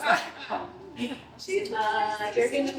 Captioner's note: chatter